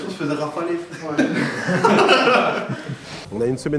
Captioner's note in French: rires